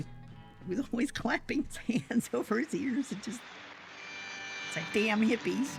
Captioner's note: laughing